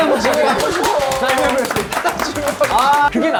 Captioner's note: applause